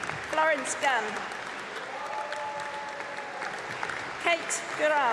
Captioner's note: applause